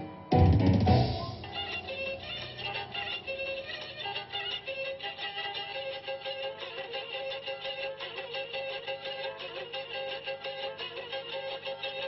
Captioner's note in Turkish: Telefon çalıyor